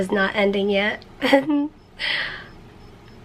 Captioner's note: chuckles